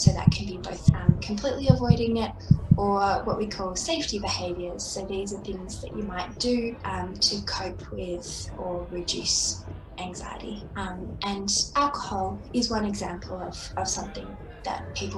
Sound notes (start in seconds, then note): 4.1 SFX: heart beating stops